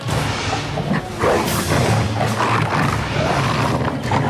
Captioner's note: growling